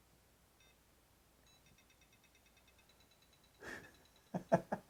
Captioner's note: powerbolt beeping; laughing